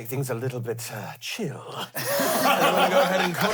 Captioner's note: everyone laughs